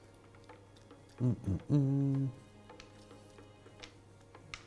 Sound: hums

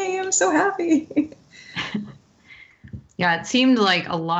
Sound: laughs

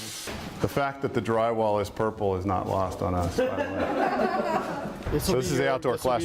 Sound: laughter

